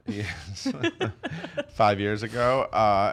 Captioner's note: laughing